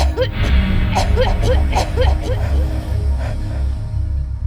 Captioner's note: choking continues